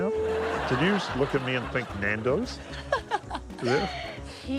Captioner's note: laughs